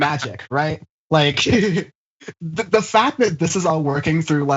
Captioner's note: laugh